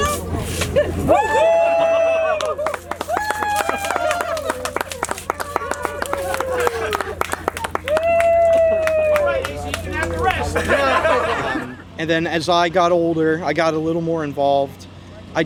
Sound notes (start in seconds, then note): 4.6 cheering and applause